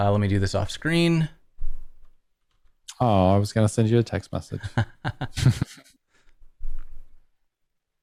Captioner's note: laughter